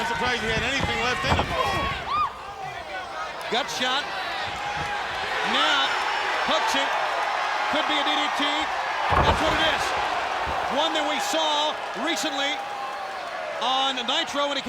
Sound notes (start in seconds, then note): 0.1 blows thudding; 1.5 crowd clamoring; 7.0 crowd cheering; 9.0 body thudding